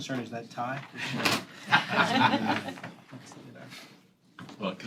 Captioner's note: laughter